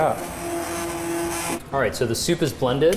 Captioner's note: hand blender whirs